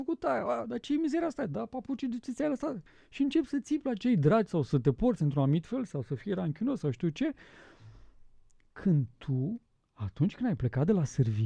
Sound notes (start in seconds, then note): none